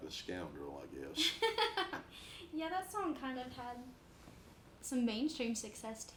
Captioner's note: laughs